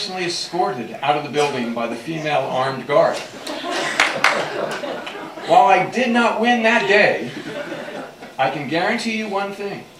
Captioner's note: laughter